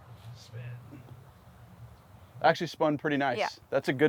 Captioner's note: none